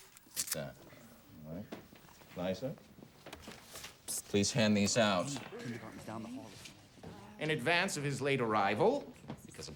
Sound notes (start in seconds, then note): 4.8 students murmuring faintly